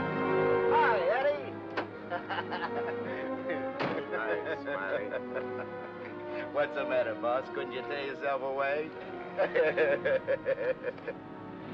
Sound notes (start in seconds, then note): 1.9 driver laughs; 3.7 car door closes; 9.3 Smiley laughs